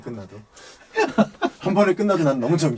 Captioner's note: ha ha ha